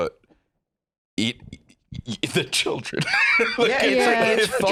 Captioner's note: laughs